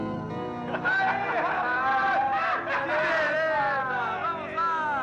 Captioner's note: crowd Cheering